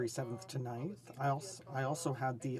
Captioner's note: speaking in French